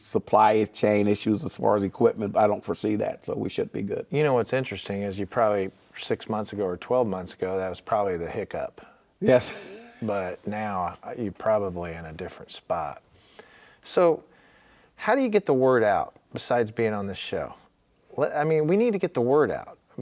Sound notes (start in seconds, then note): 9.2 laughing